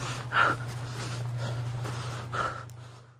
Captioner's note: heavy breathing